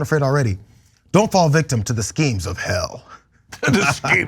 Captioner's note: laugh